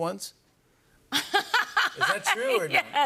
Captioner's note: laughs